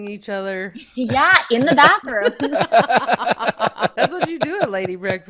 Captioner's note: everyone laughing